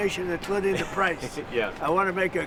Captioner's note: laughter